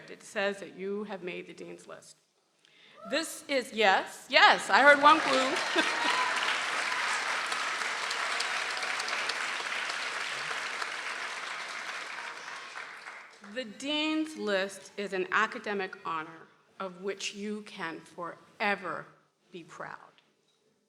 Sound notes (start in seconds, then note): 4.9 laughs; 6.1 people applauding